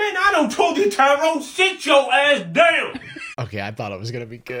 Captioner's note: cameraperson laughs